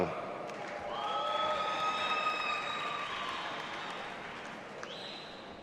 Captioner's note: audience applauding and cheering